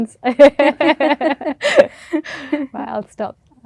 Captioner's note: laughter